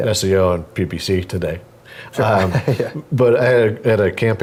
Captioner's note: laugh